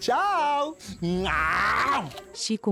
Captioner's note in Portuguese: Grito